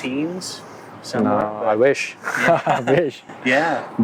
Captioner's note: chuckles